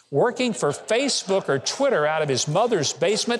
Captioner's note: audience laughing